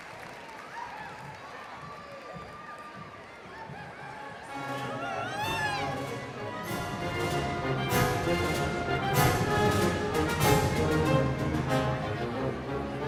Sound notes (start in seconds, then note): 1.7 overlapping chatter; 1.7 triumphant music begins